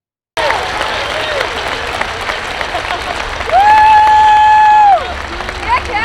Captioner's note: students cheering; students clapping